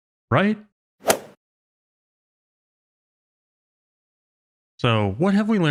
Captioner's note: golf ball hit sound effect